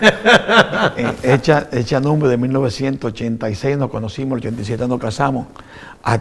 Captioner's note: haha laughs